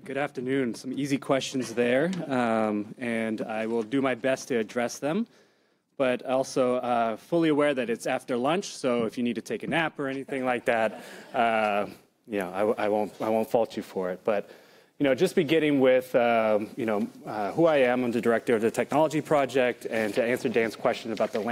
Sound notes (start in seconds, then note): 11.7 laughter